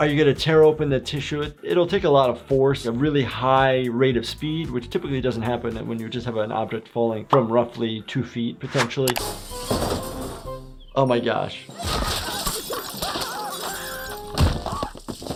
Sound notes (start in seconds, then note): 9.2 glass shattering; 11.8 Nutty and Russel screaming; 13.4 Handy screaming